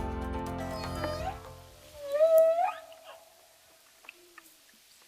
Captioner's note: whales singing